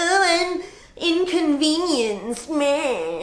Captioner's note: whiny voice